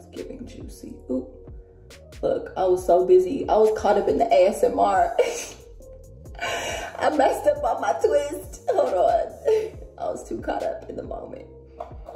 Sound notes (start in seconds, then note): 5.1 laughs; 8.9 chuckles